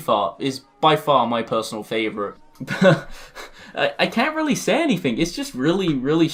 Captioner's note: little Chuckle